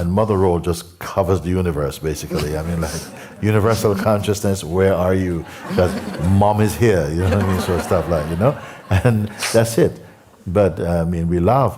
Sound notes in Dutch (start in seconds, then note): 8.2 gelach